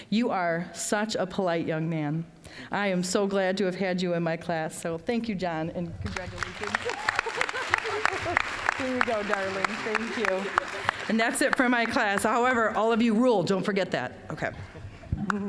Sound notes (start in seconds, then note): 6.0 applause